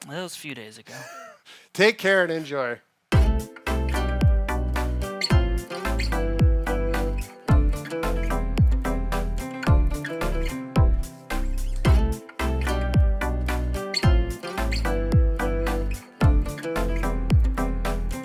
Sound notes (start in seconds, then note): 0.9 laughing; 3.1 light music